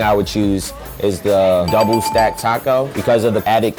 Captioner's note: dinging